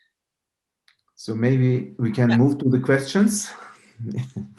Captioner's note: giggles